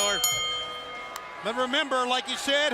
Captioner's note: bell ringing